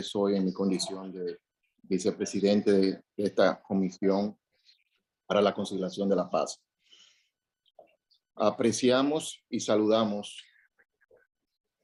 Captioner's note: speaking foreign language